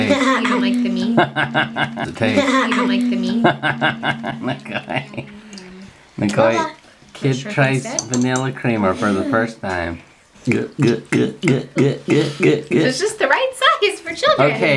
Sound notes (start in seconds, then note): 0.0 giggling; 4.5 laughing; 10.4 glugging